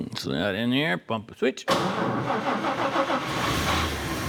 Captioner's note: engine Revving